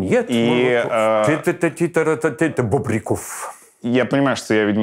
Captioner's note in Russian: Леонид напевает мотив